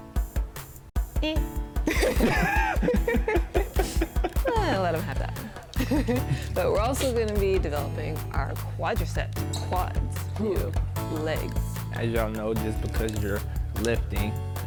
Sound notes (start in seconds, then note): 1.8 both laugh; 5.6 laughs